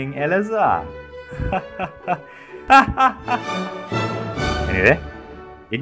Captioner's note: evil laugh